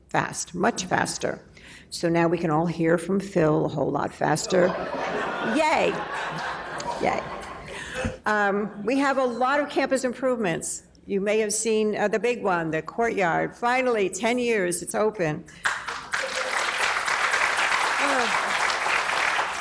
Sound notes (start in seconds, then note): 4.4 laughing; 15.6 applause